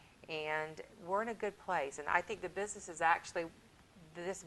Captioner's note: none